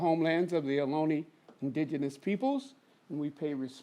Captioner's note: speaks foreign language